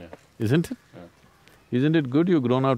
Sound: laughs

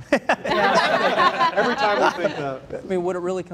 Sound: laughing

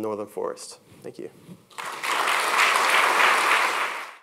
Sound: applause

